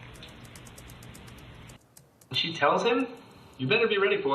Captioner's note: fingers typing on keyboard